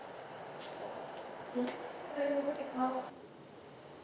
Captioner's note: train tannoy